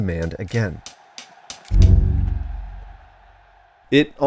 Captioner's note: crowd cheering; energetic sticks clicking